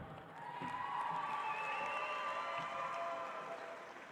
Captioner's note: audience applauds